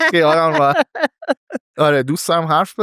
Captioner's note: laughs